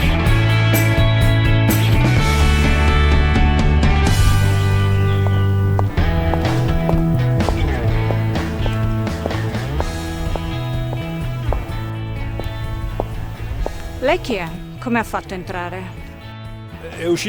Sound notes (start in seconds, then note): 5.8 clack of heels